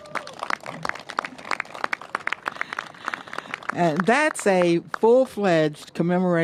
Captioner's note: applause